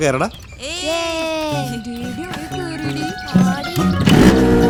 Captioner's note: kids cheering